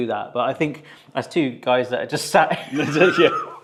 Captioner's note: laughs